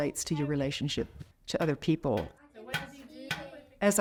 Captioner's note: repetitive banging